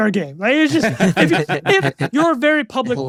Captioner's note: laughing